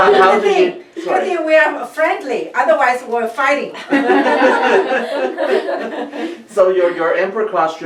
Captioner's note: group laughs; group laughs